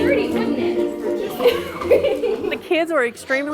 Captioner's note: laughs